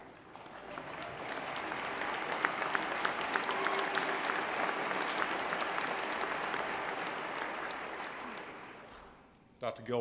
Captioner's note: applause